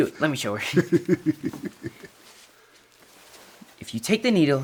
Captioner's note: laughs